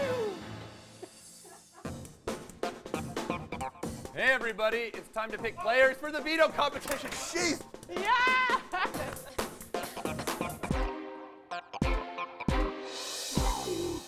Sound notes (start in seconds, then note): 1.8 laughter